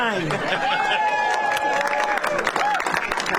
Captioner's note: applause